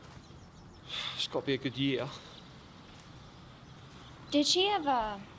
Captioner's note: sighs